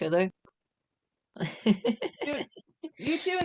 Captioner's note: laughter